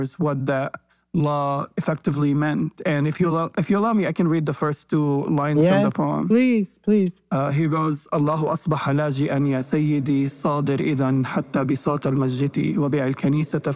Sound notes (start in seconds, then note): 8.9 speaking in foreign language